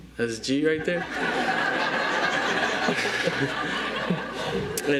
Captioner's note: audience laughs